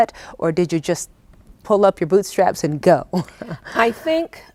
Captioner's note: laughing